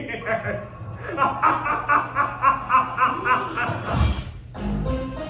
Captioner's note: laughing